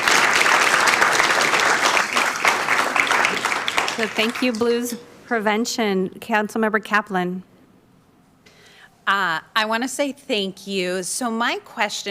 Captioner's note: applauding